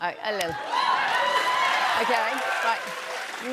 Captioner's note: cheers and applause